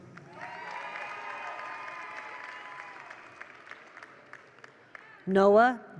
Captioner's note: attendees applaud; attendees cheer